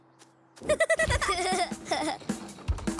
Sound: giggling

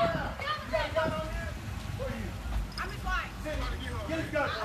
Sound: shouting

